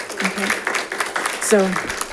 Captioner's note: audience applauding